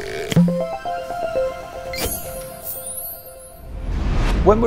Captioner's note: playful chime